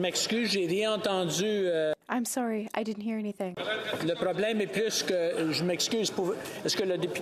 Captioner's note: speaking French